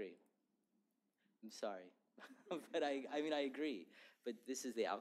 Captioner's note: laughter